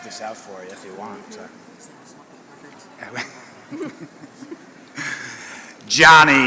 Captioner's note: laughter